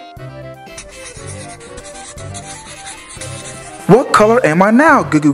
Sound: coloring scratching

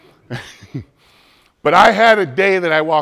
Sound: laughs

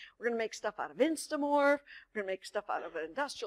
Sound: none

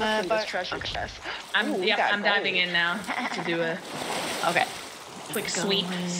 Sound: laugh

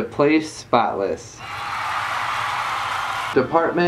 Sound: applause

